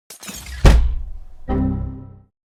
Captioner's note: slams table